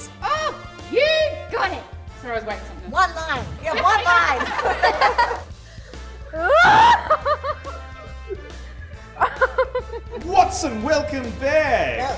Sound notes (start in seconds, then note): 3.7 laughter; 6.4 screaming